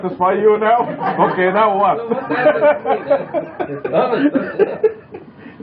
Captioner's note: laughter